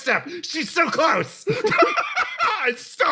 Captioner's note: laugh